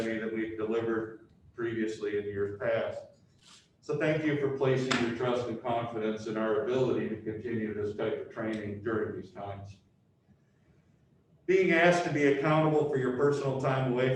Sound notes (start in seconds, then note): none